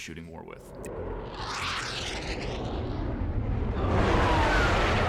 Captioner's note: jet engine whirring